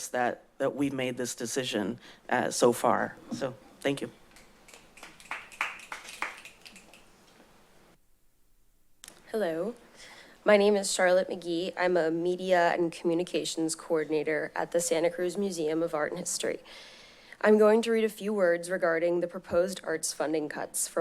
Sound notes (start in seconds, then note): 4.7 applause